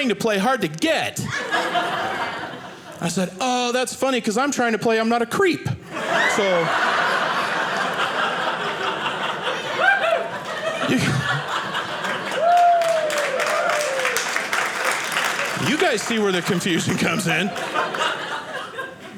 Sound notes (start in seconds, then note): 5.9 audience laughing; 11.4 audience applauding